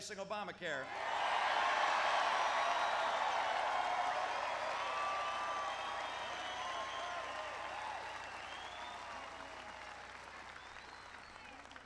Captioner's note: applause